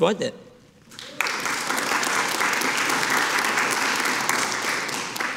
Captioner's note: audience applauding